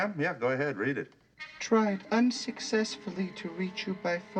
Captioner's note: in feminine voice